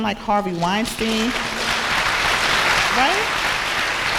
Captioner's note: applause